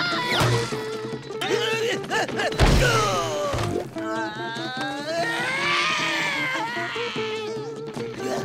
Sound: groaning

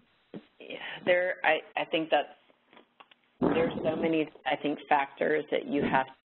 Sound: voiceover

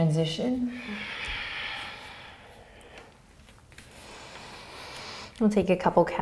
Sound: breathing

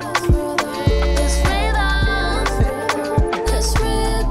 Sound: laughing

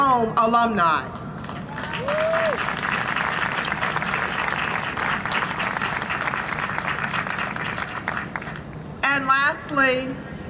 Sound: applause and cheering

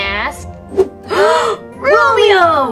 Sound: gasps

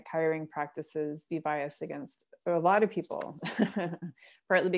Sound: laughter

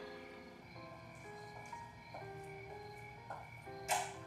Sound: insects chirping

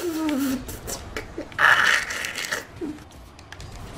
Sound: the sound of getting stabbed

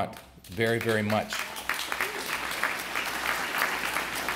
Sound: applause

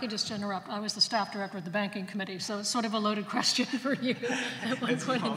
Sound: laughs

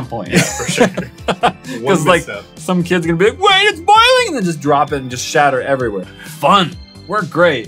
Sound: laughing

